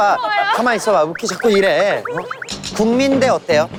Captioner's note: ruckus